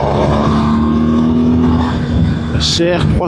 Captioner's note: engine